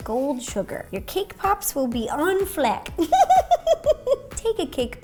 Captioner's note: giggles